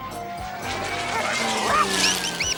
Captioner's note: zooming; squeaking